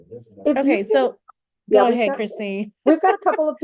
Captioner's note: laugh